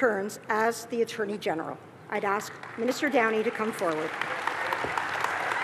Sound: applause

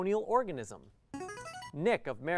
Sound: player buzzer

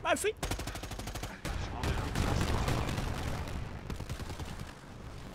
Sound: guns firing

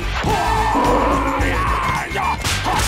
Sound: roaring

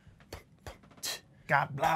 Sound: beatboxing

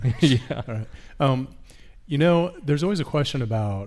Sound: laughs

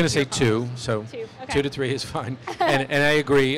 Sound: laughs

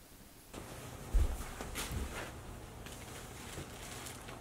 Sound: footsteps

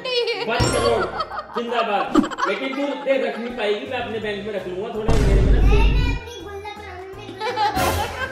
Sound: laughter

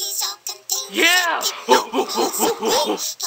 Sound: both Hooting

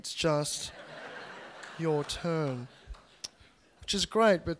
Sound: laughter

